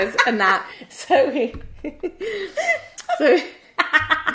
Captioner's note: laughing